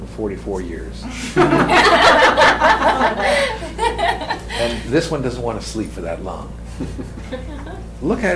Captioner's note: laughter